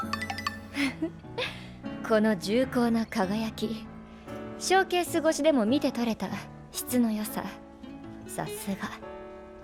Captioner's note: laughs